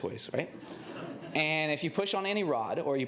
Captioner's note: laughter